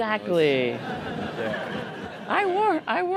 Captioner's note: laughter